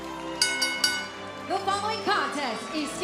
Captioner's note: bell ringing